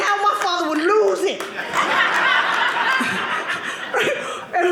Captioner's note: audience laughing